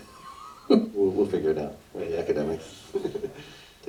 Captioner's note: laughs